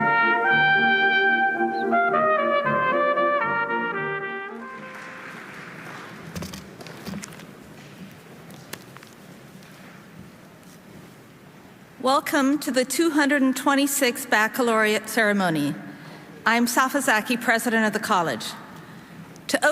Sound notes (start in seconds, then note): 0.0 bright music; 4.4 audience applauding